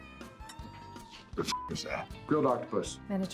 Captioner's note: beep